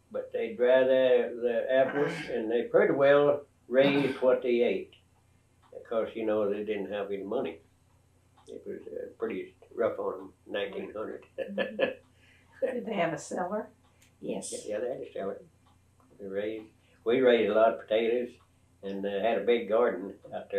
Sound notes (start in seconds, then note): 12.0 laughs